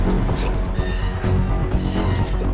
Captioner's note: metal creaks